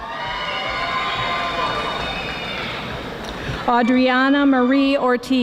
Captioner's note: audience applauding